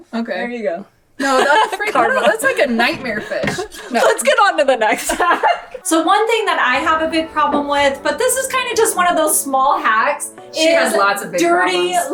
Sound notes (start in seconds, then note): 1.8 laughs; 5.5 laughs